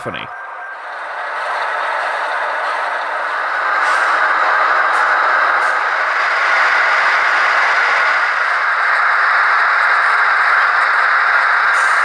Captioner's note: idling intensifies